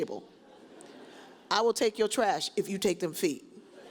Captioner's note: audience chuckles